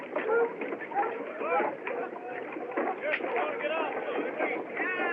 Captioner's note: chattering